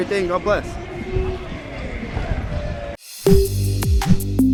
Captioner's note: background talking; upbeat music